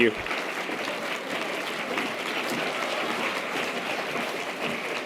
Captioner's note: audience applause